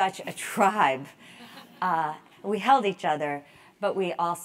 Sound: laugh

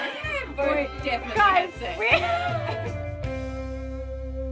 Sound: laughter

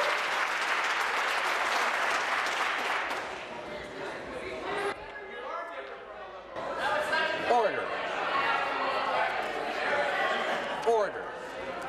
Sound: some Applause

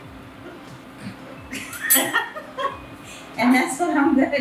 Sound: laughing

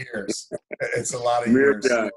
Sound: laughing

